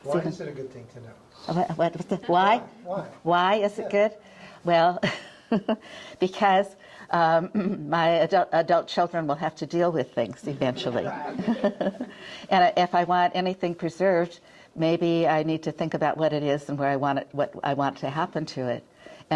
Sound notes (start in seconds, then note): 10.9 chuckles